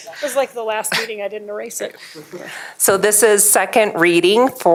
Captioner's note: laughter